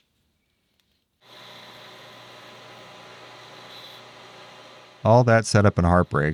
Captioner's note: machine whirring